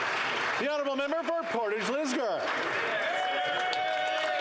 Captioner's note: some Applause